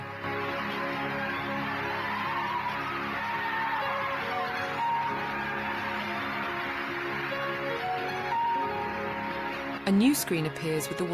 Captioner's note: crowd cheering